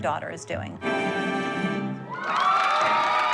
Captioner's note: cheering